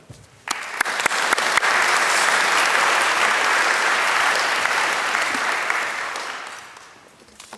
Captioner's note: applause